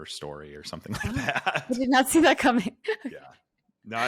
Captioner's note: laughs